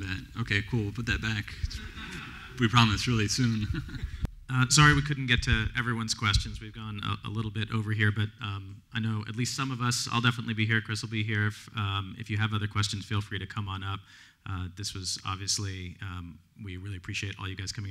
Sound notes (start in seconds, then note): 1.7 laughter; 3.4 laughs